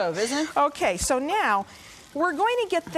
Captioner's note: laughing